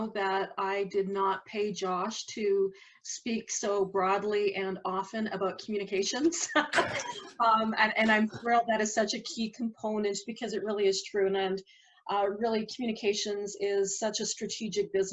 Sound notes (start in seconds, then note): 6.7 laughs